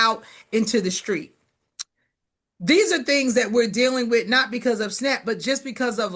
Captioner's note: lips smack